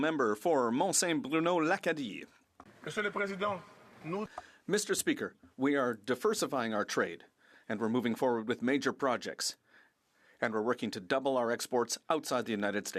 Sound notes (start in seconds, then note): 3.1 speaking French